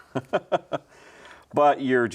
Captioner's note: laughs